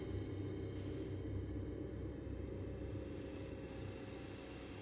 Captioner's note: static buzzing